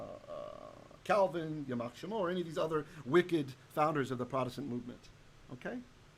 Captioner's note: Hebrew